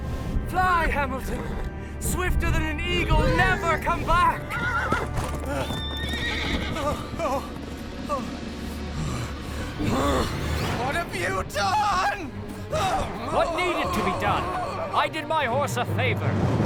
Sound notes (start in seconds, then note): 4.1 Hamilton gallops away; 10.6 yelling